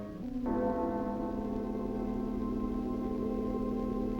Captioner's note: bell tolls